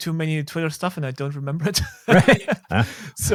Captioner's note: chuckles